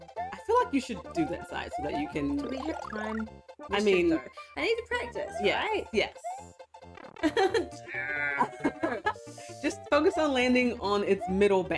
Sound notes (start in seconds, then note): 7.2 laughs